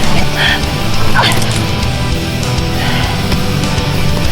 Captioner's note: bones crack